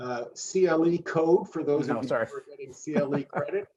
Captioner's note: laughs